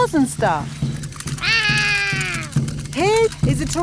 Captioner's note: roaring